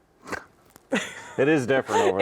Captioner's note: snorts; laughs